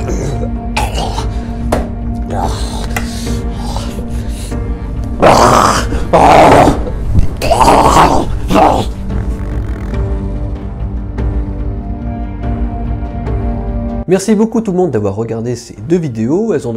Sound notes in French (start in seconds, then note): 6.1 ruouaghhhh